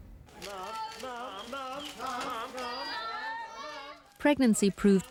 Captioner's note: cameras clicking